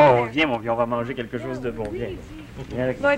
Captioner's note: speaking French